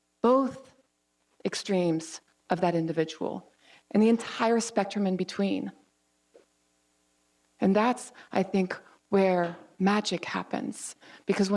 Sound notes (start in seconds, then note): none